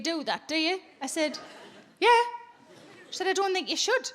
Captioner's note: audience laughing